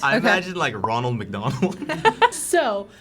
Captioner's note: laughs